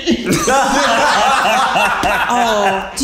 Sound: all laughing

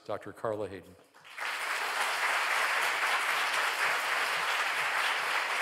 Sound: audience applauding

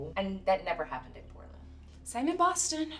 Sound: none

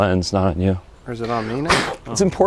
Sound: blowing

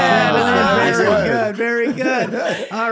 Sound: everybody cheering

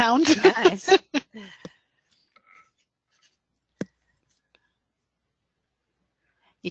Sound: silence

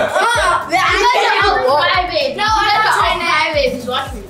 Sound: laughing; group chattering

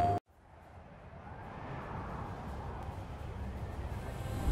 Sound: wind blowing

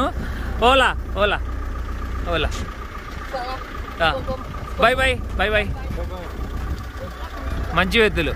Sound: speaking in foreign language

